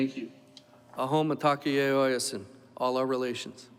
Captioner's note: foreign Language